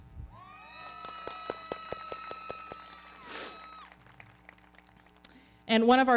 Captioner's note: audience cheering; everybody clapping